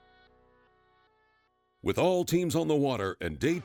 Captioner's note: voiceover